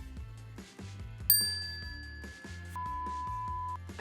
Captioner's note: bell dings